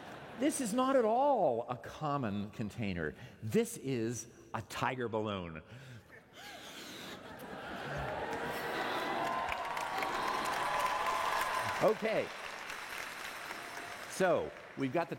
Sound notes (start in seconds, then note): 0.2 laughter; 9.0 cheers and applause